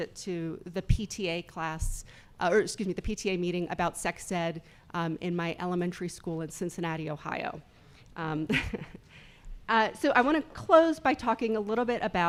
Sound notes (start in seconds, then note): 8.5 laughs